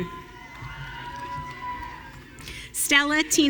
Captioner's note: audience cheering